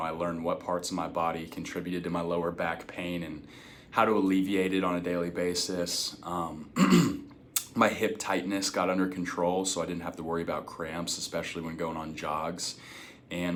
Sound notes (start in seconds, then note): 6.7 clears throat